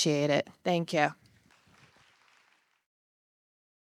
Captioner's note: audience applauding